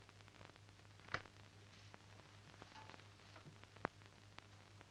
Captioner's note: door open